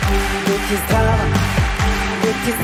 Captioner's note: clapping on beat